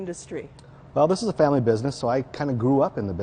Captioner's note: voiceover